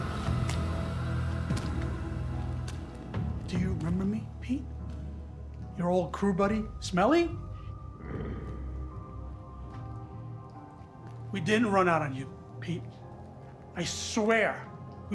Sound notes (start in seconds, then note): 0.1 eerie music; 8.0 Pete growls